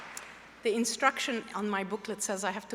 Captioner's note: applause